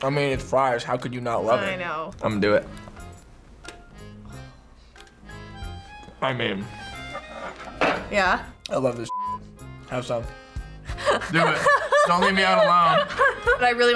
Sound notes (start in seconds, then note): 4.7 whispers; 11.0 laughs